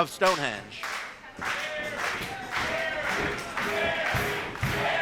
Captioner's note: crowd clapping